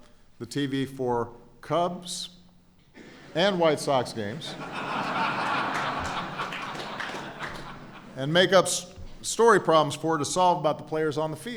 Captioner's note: laughter